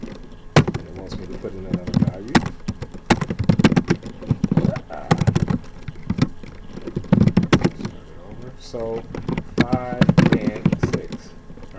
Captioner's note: typing sounds